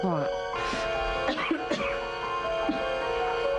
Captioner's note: car horn blaring; coughs